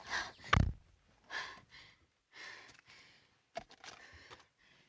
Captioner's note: heavy breathing